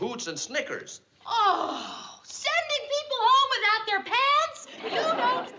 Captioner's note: gasps